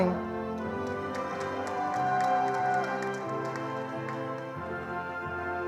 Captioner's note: attendees applauding